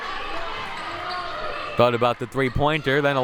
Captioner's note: clapping; audience yelling